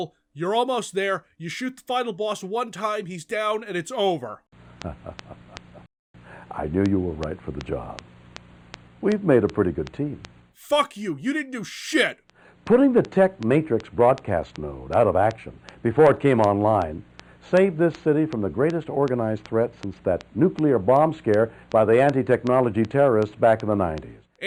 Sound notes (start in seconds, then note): 4.9 Shatner chuckling at your abject misery